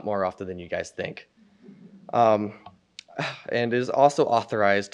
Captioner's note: audience chuckles